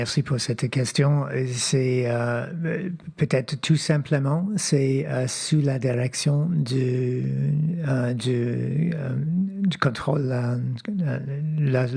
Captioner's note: speaking French